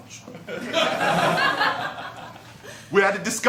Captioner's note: laughter